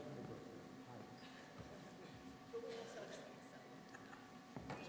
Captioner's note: speaking off mic